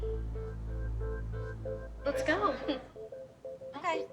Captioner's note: laughs nervously